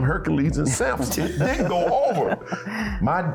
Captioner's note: laughing